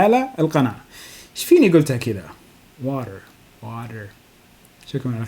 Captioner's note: speaking to himself